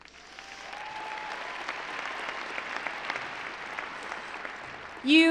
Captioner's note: applause